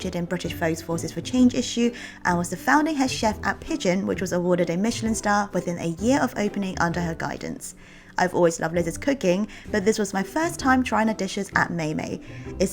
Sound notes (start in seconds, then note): none